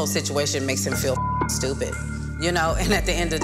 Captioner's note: beep